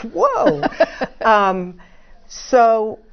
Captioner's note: laugh